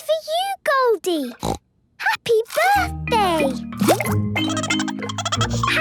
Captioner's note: snorting; Goldie giggling